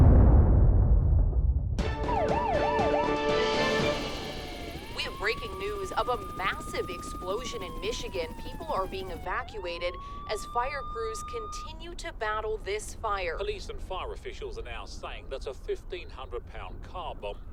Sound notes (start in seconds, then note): 1.7 dramatic music; 1.9 siren wailing